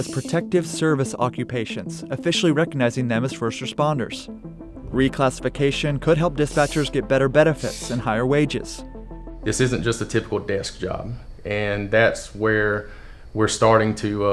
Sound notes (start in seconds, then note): none